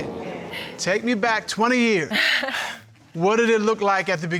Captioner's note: angie chuckles